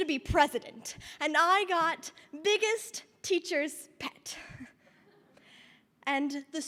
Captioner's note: chuckles